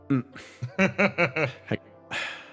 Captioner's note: laugh